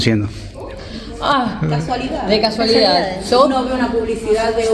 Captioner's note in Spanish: suspiro